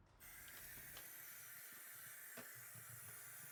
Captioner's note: water running